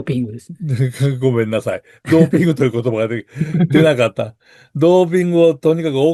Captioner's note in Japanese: 笑い